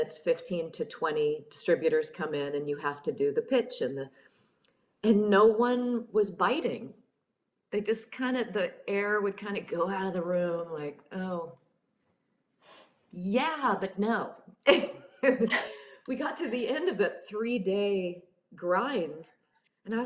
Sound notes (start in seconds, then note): 15.3 laughs